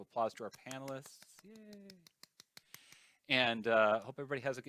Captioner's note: claps hands